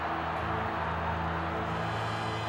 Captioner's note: crowd cheering